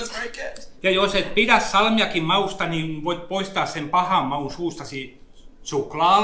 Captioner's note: speaks in Finnish language